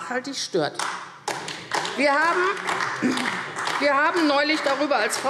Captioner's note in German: Vereinzelter Beifall AfD